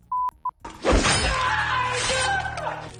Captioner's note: beep; screaming